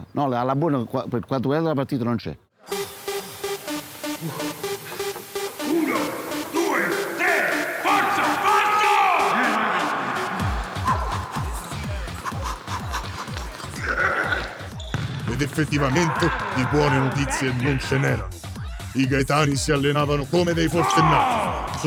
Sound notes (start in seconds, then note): 4.0 Gaetani panting exhausted; 9.8 disco music playing